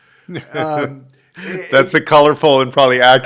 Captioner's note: laughs